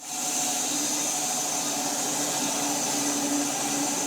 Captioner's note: saw whirring